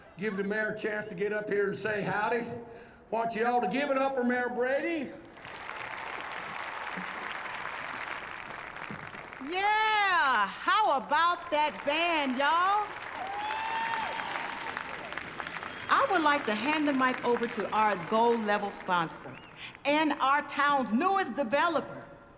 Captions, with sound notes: Give the mayor a chance to get up here and say howdy. I want you all to give it up for Mayor Brady. [APPLAUSE] Yeah! How about that band, y'all? [CHEERS, APPLAUSE] I would like to hand the mic over to our gold-level sponsor and our town's newest developer...